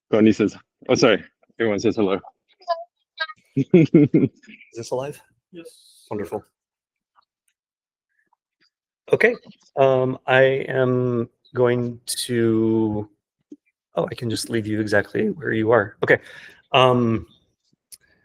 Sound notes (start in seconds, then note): 3.6 laughing